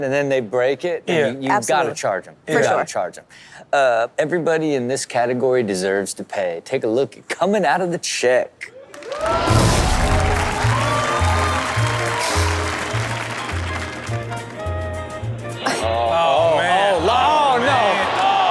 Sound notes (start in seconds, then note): 8.8 audience cheering and applauding; 10.2 easy listening music